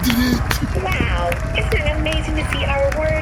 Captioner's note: the cast and crew begin to applaud